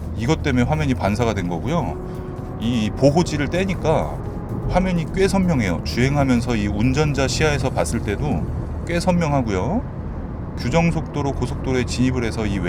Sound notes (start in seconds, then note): 9.7 noise of highway; 12.0 noise of highway